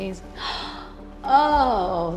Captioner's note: gasping